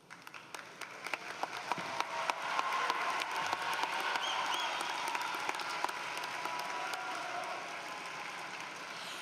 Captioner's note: applause